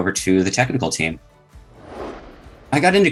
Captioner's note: air whooshing